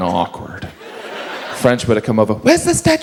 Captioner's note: audience laughs